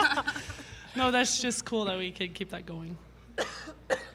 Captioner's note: laughter